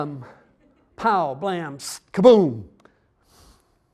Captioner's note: audience chuckling